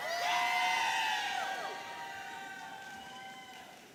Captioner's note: audience cheering